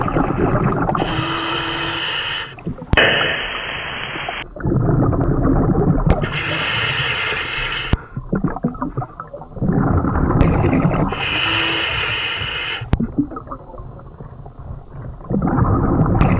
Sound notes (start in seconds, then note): 1.1 regulating hissing; 1.1 water burbling; 11.2 regulating hissing; 11.2 water burbling